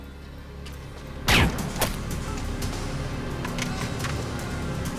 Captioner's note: gun fires